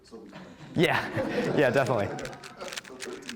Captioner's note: all laughing